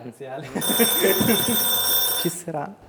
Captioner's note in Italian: squilla il telefono